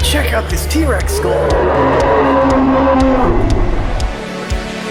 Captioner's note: dinosaur roar